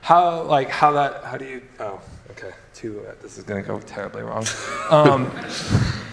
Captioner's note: laughs